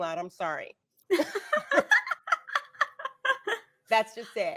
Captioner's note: laughing